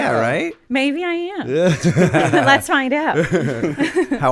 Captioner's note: laughter